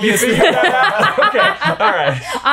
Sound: all laughing

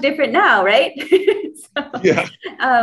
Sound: laughs

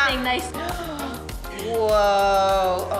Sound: gasping

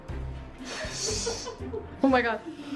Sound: laughs

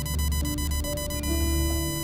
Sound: heart monitor shrilling

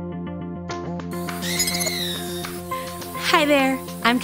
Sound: digital beeping

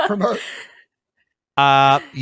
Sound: laughs

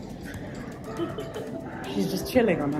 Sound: laughs

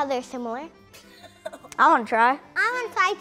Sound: laughter

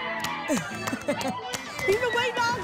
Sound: applause and cheering

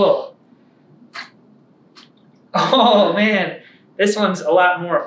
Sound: laughter

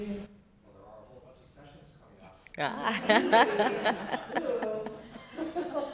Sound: laughter

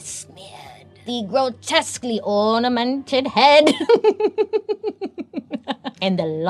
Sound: laughs

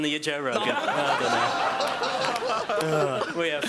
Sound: laughing

